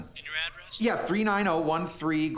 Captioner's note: on phone